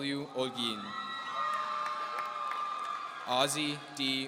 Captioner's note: audience cheering